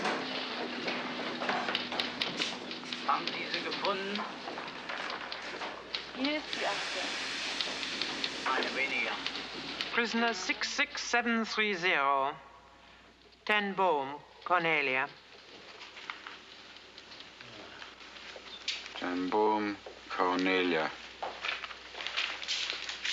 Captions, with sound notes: WILL GIVE YOU ALL THE STRENGTH YOU NEED. [clicking of typewriter keys] [soldiers speaking German] PRISONER 66730, TEN BOOM, CORNELIA.